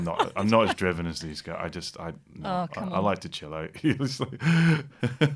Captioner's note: laughter